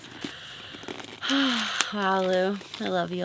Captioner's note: sighing